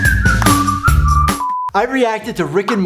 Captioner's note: beeping; upbeat music; beeping